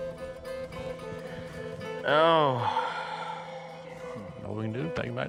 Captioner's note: sighs